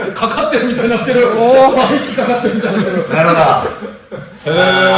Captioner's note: laughs